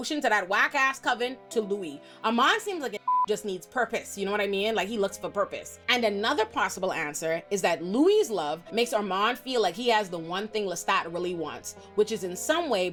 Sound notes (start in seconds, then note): 3.0 beep